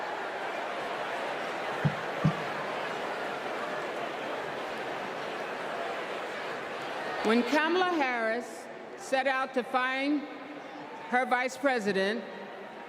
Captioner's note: crowd chanting "u.s.a."